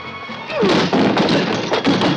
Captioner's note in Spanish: grita